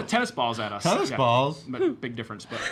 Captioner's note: gasps